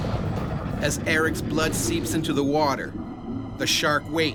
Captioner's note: voiceover